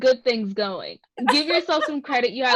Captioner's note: laughs